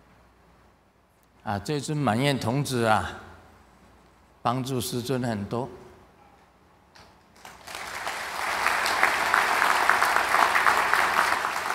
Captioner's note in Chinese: 眾鼓掌